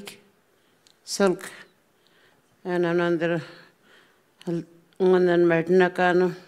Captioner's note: speaking Anmatyerr